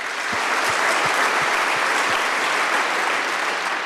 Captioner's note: applause